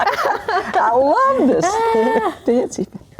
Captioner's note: laughing